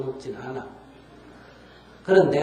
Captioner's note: audience Laughter